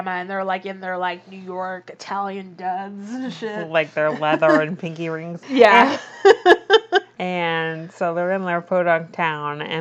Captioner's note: laughs